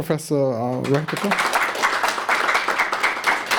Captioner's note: applause